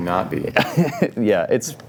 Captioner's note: laughs